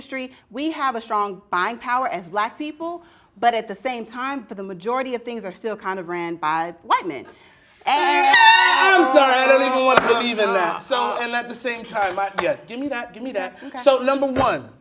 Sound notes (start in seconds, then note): 8.1 loud horn